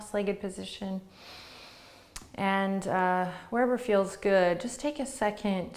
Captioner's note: breathes deeply